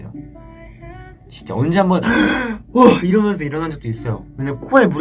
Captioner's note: gasp